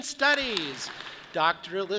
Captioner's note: audience claps